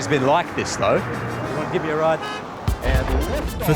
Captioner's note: car horn beeps